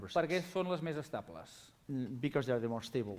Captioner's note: non-english speech